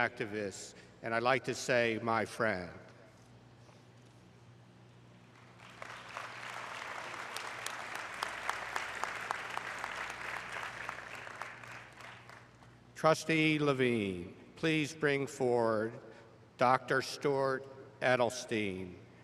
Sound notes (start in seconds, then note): 7.8 applause